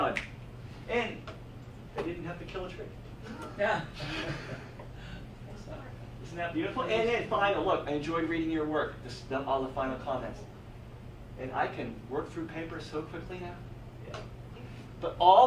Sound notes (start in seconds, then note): 3.3 audience laughs